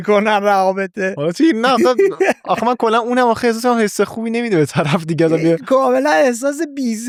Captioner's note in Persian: خنده